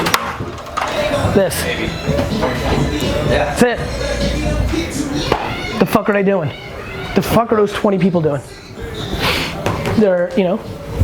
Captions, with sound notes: This, that's it. (crowd chattering) The fuck are they doing? What the fuck are those 20 people doing? They're, y'know.